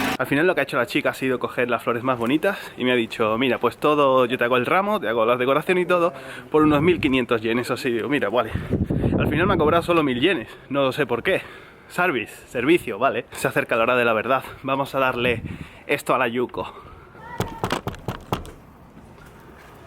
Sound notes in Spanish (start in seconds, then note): 17.3 toc toc toc toc toc